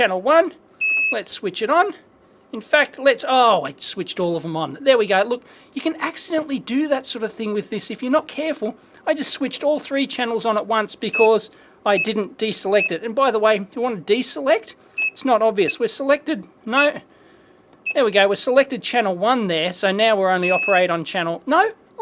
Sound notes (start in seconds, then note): 11.1 beeps; 15.0 beeps; 17.8 beep